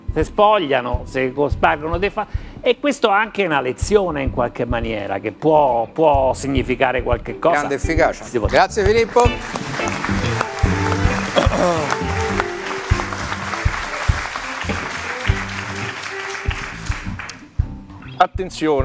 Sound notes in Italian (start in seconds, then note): 9.0 Applauso